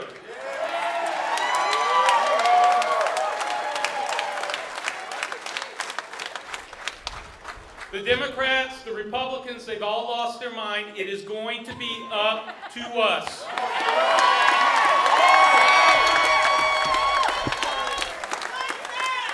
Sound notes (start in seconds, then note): 3.1 applause; 13.3 applause